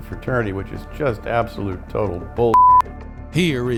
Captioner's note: beep